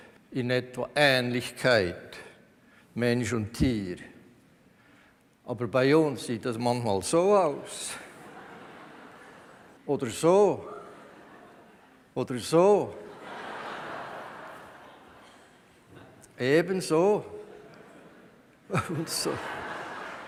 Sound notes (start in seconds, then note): 8.1 laughter from the audience; 13.0 laughter from the audience